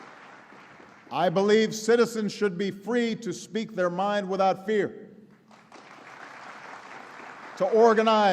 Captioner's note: applause; applause